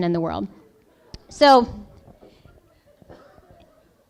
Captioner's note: laughing